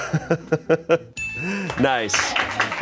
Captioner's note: bell chimes